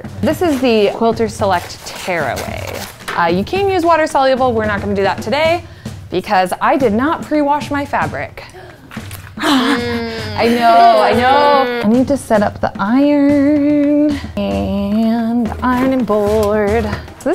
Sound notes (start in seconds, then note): 9.4 gasps